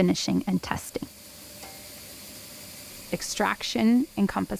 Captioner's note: machine whirring